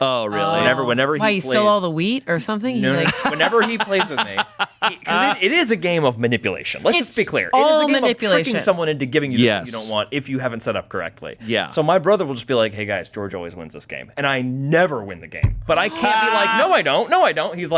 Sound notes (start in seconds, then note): 2.8 laughs